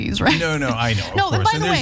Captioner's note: laugh